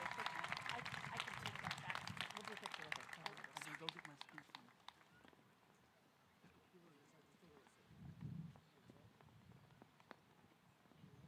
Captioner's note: applause